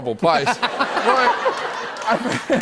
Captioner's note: laughter